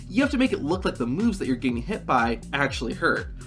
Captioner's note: none